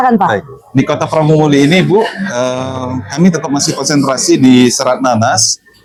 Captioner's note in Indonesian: tertawa